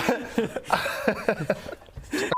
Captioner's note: giggles